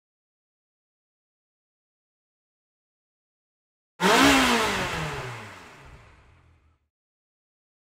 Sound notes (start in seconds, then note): 4.0 car engine revs